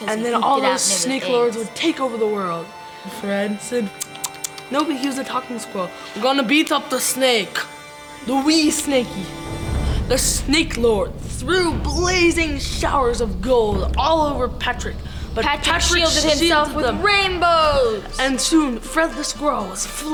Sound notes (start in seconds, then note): 4.0 making squirrel noises